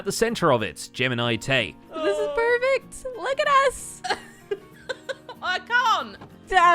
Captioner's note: laughing